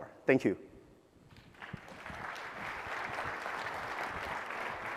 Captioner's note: applause